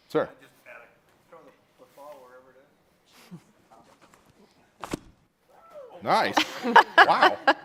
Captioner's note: off microphone